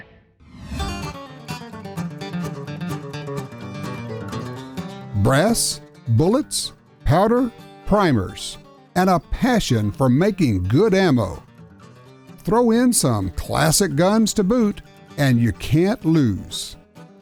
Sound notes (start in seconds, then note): 5.4 voiceover